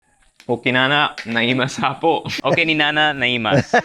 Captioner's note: speaks in Ilocano; laughs